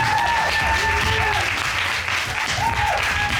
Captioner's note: audience cheers, applauds